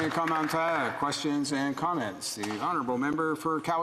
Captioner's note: some Applause